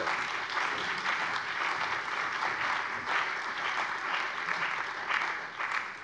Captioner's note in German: Allgemeiner Beifall